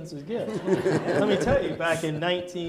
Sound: audience laughing

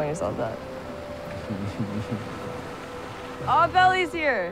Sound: Steven chuckling

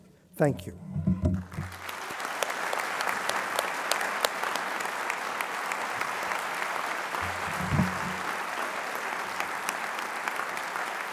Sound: applause

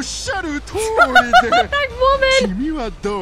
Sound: laughs

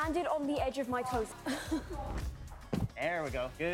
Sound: chuckling

